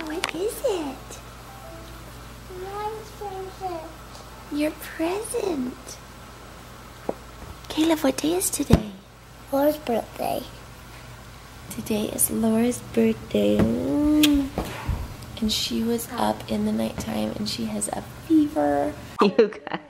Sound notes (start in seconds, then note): 14.2 lips smacking